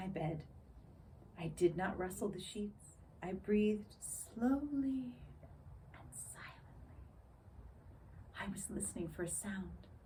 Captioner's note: whispers